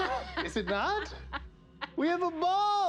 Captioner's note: laughs